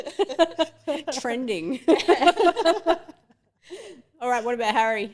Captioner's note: everyone laughing